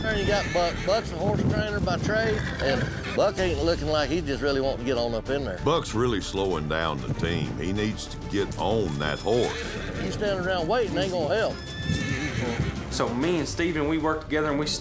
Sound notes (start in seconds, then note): 12.0 horse neighs loudly